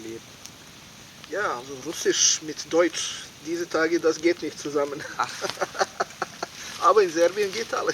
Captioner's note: laughing